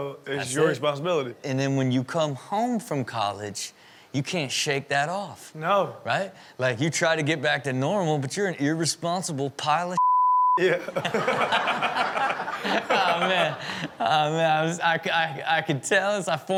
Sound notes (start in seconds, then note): 10.6 laughs; 10.6 audience laughing; 13.4 laughing